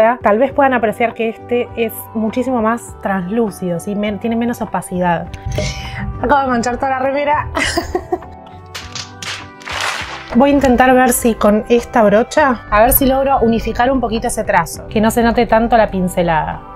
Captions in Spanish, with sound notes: tal vez pueden apreciar que este es muchísimo más translúcido, tiene menos opacidad acabo de manchar toda la remera!! [risas] voy a intentar ver si con esta brocha, a ver si logro unificar un poquito ese trazo, que no se note tanto la pincelada